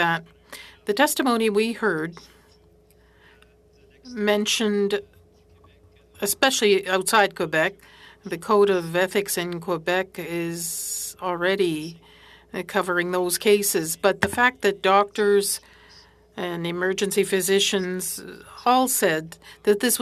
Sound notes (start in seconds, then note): 4.4 speaking French